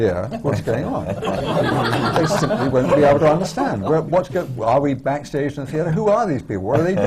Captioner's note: laughter